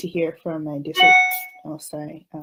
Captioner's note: loud ding